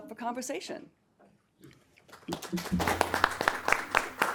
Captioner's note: attendees clapping; laughs